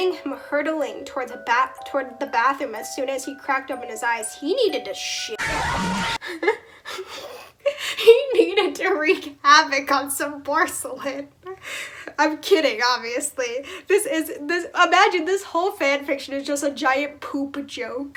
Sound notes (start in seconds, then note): 5.9 laugh